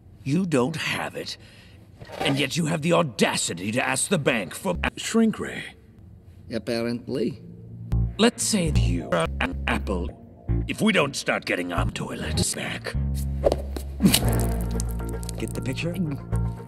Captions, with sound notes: You don't have it? And yet you have the AUDACITY to ask the bank... Apparently... Let's say you are an apple If we don't start getting our toilets back... *squish* Get the picture?